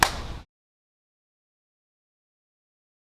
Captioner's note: claps